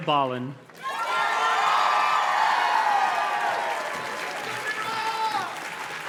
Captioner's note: audience cheers and claps